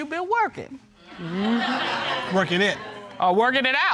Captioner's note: audience laughing